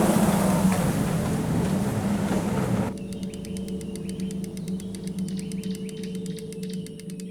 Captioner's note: birds chirping; fishing rod clicking